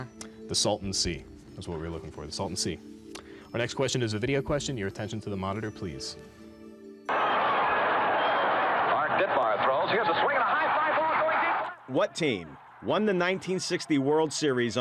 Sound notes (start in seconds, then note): 4.9 crowd sounds